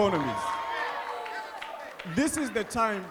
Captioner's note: audience cheering